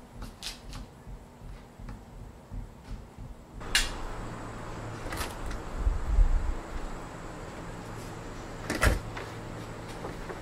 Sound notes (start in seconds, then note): none